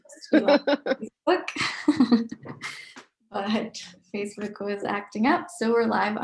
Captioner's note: murmurs; laughing